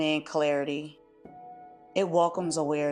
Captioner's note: pause